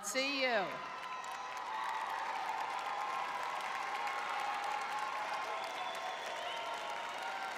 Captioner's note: crowd cheering